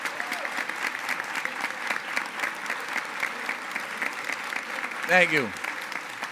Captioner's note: applause